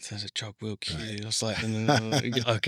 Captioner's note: laughs